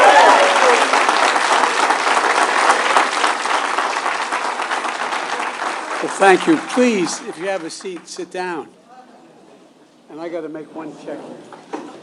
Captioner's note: cheers and applause